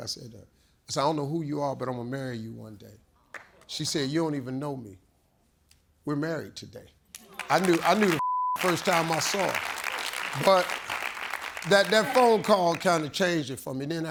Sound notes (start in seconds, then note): 8.2 beep; 8.5 audience cheers